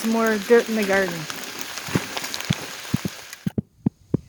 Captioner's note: rain drops